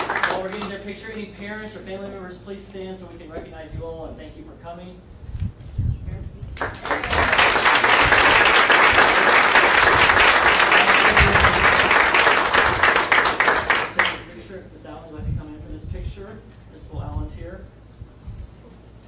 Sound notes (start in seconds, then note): 6.6 audience applauding